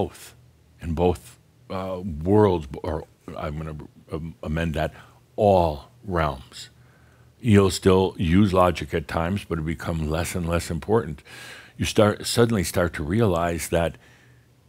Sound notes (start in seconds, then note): none